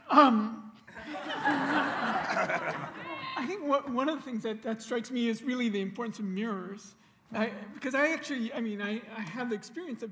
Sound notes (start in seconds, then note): 0.1 clears throat; 1.0 laughing